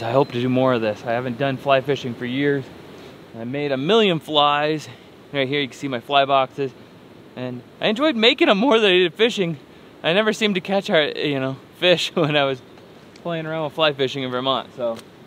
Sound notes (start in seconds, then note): none